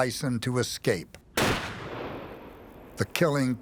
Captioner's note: gunshot